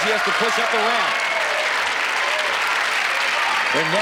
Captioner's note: cheering and applause